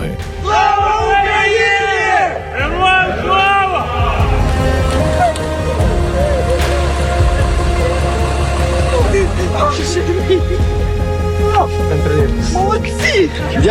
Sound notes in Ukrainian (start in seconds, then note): 4.0 жінка плаче